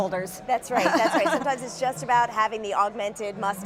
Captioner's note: laughing